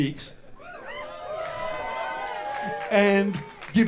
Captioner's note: audience whoops and applauds